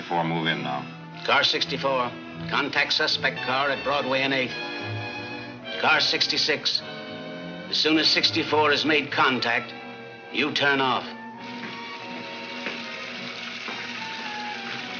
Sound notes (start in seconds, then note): 12.4 water splashing